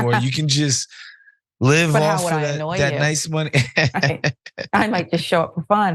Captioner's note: laugh